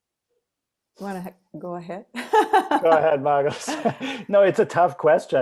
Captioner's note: laughs